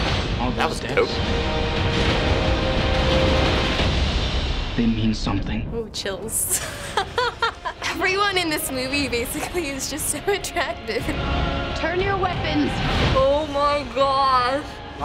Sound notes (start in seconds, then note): 1.4 dramatic music; 6.5 laughs